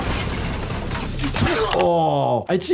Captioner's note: both grunting; blow thuds